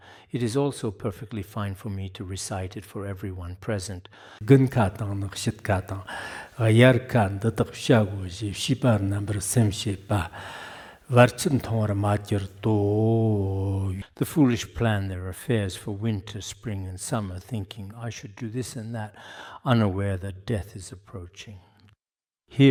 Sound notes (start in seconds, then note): 4.5 giving oral transmission in Tibetan